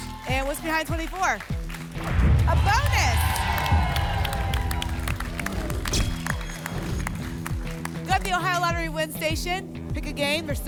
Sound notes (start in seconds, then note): 2.0 boom; 4.4 applause and cheering; 5.4 whoosh; 5.8 camera flash sound